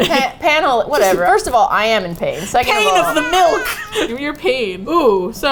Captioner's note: laughing; laughs